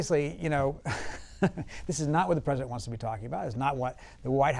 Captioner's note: laughs